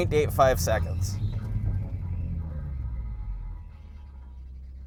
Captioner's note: metal scraping